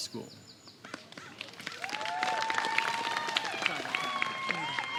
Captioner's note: applause